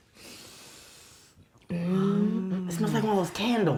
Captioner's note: both inhaling